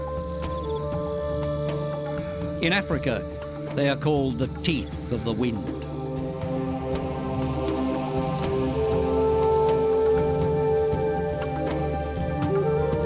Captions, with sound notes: [soft drumming] In Africa, they are called "the teeth of the wind". -[men chanting] -[locusts fluttering] [flute and drums]